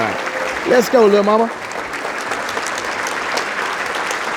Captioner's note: applause